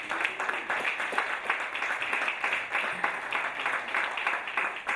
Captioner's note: audience applauding